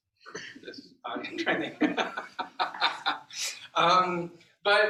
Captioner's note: laughter